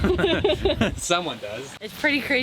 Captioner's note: both chuckle